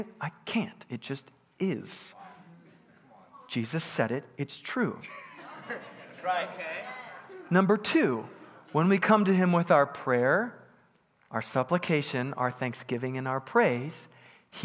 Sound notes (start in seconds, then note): 5.0 congregants bustling